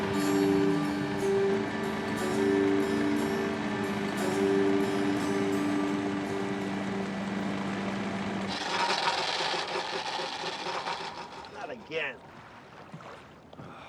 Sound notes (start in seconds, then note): 0.0 soft music; 8.7 motor stalling; 13.6 sighing